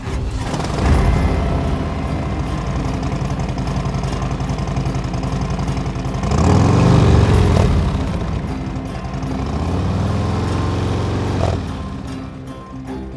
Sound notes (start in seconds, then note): 0.5 engine rumbling